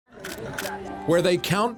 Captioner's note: camera clicking